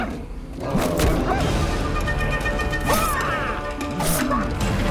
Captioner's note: knife slashes; panther grunts